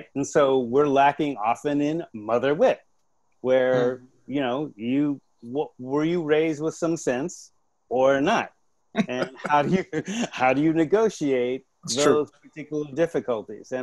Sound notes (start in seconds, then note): 9.0 laughs